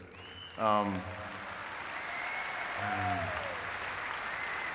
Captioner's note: audience clapping